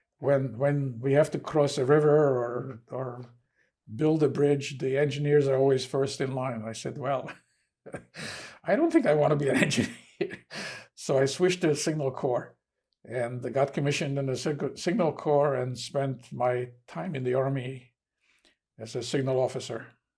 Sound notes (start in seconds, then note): 9.5 laughing